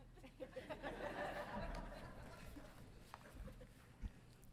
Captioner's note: audience laughing